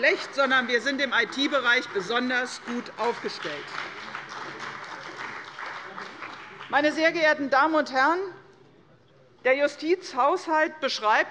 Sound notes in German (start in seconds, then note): 3.7 Beifall bei der CDU